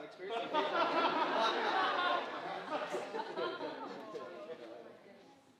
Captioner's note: audience laughing